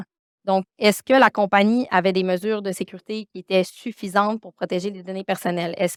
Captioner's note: continues speaking French